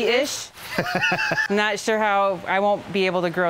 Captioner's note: softly laughs